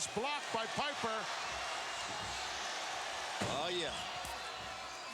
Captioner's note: applause